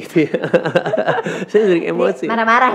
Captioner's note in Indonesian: tertawa